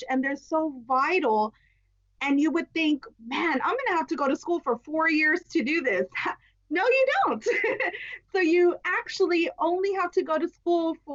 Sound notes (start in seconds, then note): 7.4 laughs